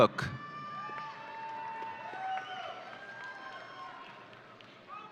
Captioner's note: audience cheering